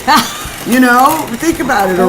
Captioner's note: laughing